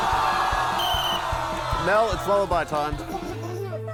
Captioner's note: blows whistle